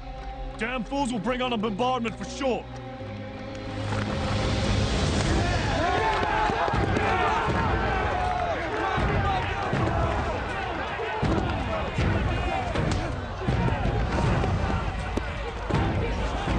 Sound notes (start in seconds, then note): 4.6 dramatic music; 4.6 men yelling